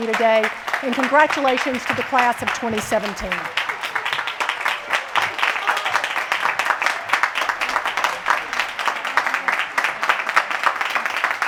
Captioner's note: applause